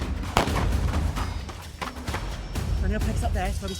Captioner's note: dramatic music continues; gunshot blasting